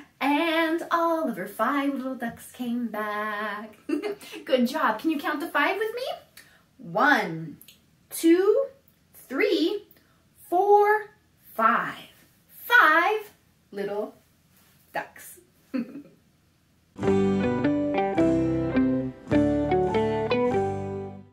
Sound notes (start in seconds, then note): 3.8 laughs; 15.0 laughs; 17.0 transition music